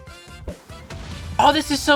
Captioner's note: another explosion